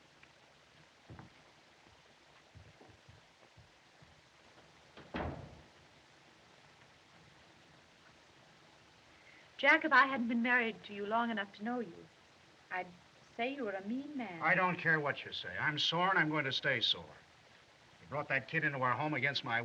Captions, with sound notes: [ Door Closes ] Jack, if I hadn't been married to you long enough to know you, I'd say you were a mean man. I don't care what you say. I'm sore, and I'm going to stay sore. You brought that kid into our home against my wishes,